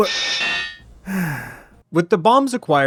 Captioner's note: sigh